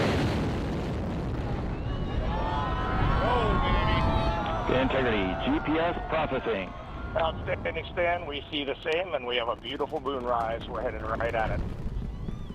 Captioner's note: cheers and Applause